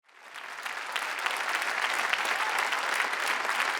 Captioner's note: all clapping